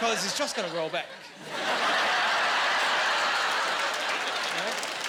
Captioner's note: laughing